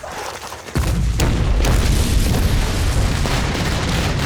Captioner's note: explosion